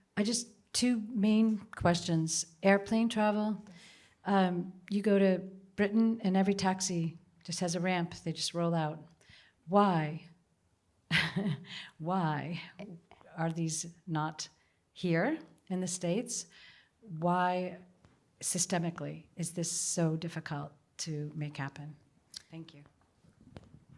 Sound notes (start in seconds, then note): 11.1 laughter